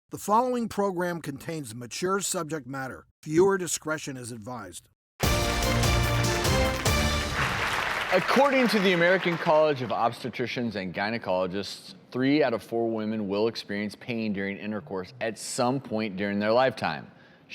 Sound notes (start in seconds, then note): 5.2 musical intro; 5.3 applause